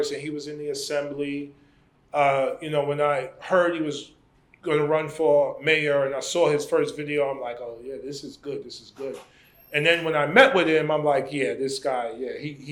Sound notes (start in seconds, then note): none